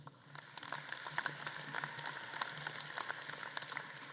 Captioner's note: audience claps